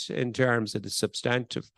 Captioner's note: none